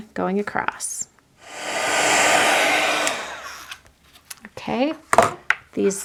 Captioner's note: machine whirring